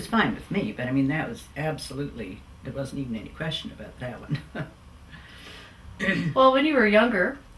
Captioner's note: laughs